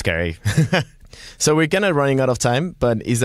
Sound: laughs

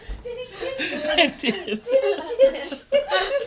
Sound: laughing

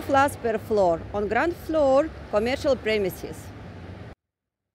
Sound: street & Traffic Noise

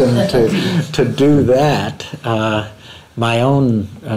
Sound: laughter

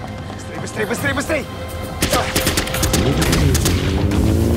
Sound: gunshots

